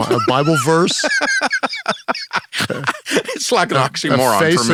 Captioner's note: laughs